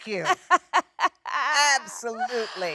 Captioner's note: Jennifer laughs